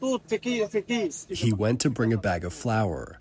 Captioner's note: through translator